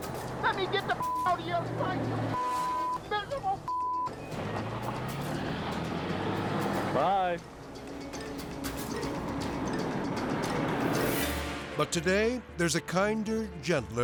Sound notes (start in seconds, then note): 2.3 beep; 4.4 car whooshing; 7.5 tense music; 10.5 graphics whooshing